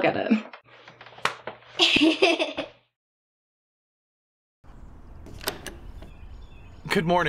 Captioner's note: Maya smacks her butt; Esther laughs